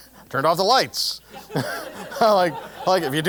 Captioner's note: laugh